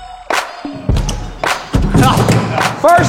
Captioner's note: dunk sound